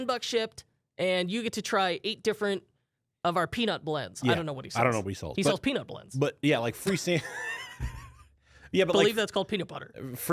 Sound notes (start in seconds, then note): 8.6 laughs